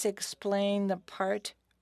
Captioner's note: speaking French